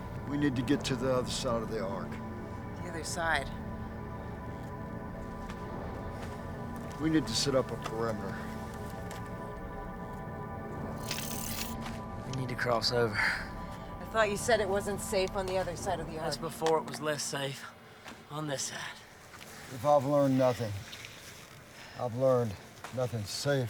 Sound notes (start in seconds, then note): 11.4 electrical buzzing